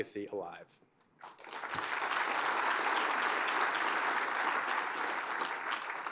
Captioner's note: applause